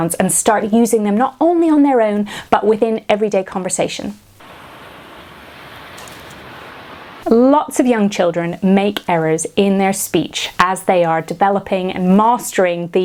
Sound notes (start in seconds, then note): 4.4 roaring waves